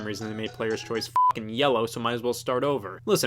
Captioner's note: beep